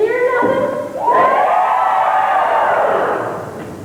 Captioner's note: cheering, whooping